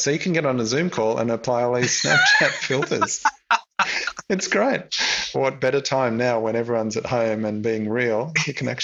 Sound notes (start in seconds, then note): 1.8 laughs